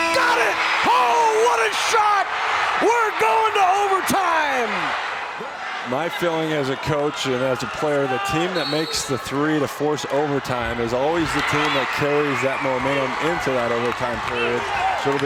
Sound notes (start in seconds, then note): 0.0 horn blares; 1.8 crowd screams; 4.4 crowd screams